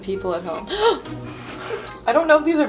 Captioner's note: gasps